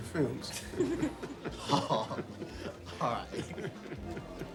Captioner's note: laughing